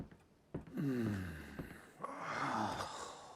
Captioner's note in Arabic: تنهد